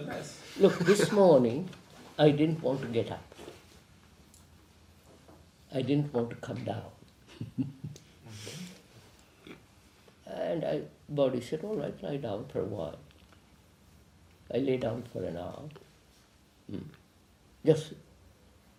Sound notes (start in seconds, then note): 7.3 laughs